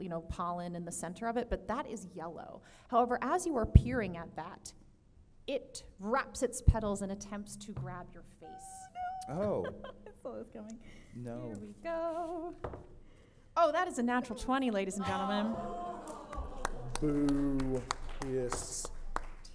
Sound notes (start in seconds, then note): 15.9 audience applauds